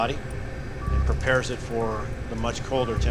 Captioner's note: cryo chamber beeping